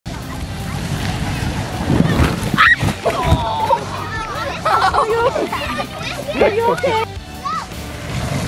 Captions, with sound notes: (kids shouting excitedly) (kids grunting) (kids giggling) - [Voice off Screen] Are you okay?